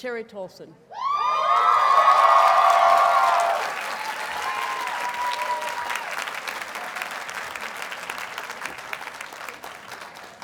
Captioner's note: audience cheers and applauds